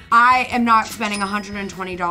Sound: cash register ringing

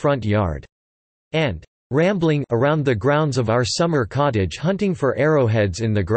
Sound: rambling

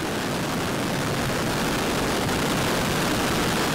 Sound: white noise

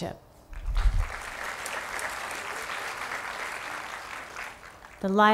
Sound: applause

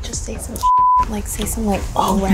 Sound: beep

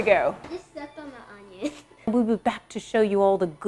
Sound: laughs

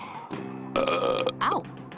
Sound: belches

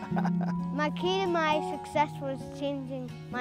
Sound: laughing

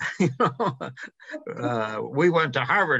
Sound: chuckles

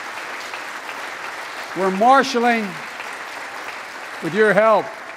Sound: applause

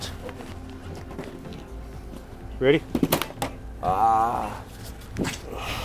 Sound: victim screams in pain

